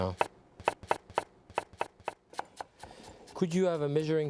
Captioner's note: knife tapping